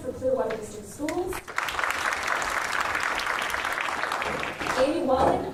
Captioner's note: applause